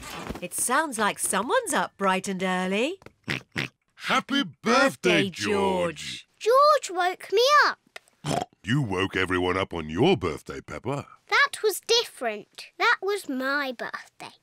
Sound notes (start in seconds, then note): 2.9 oinks; 8.2 oinks